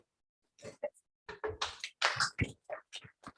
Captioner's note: applause